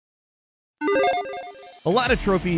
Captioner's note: logo beeps